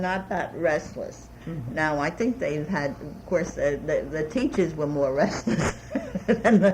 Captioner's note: laughs